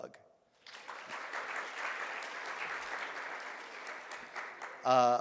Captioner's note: audience claps